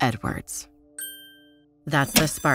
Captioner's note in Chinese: 眨眼聲